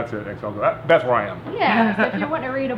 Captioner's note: laughing